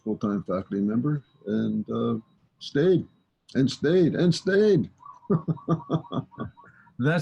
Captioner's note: laughs